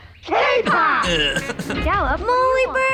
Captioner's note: laughs